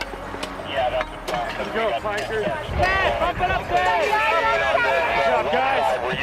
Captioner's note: firefighter chatter